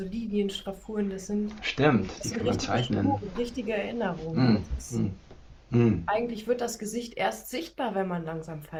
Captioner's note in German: räuspern